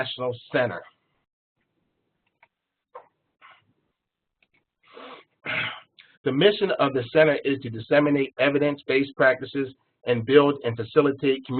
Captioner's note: cough